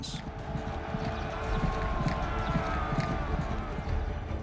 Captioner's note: battle cries